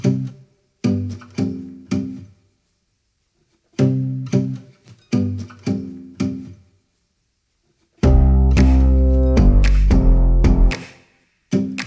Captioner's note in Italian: Applauso